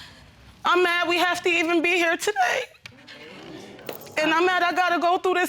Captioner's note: voice breaking